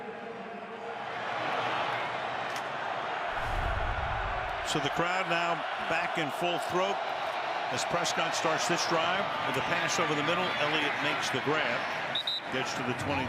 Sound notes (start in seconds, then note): 1.8 cheers